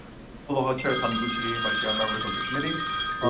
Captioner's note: bell rings